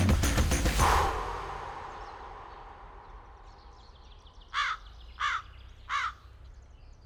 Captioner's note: birds chirping